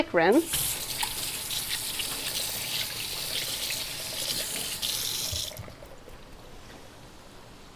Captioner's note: running water